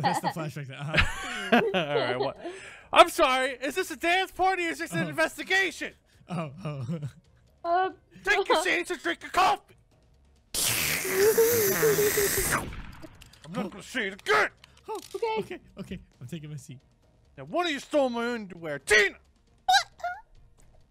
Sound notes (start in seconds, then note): 0.0 Goldy laughing; 0.9 laughs; 6.3 laughing; 12.3 slurping and gunshot